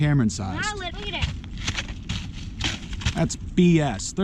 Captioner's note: kicks can